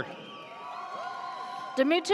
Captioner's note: audience cheers